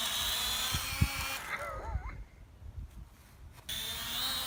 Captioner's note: laughs